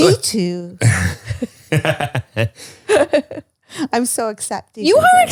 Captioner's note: all laughing